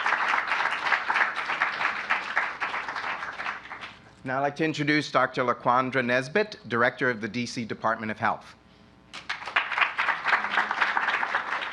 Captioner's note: applause